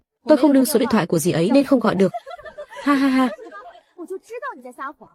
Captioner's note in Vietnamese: tiếng cười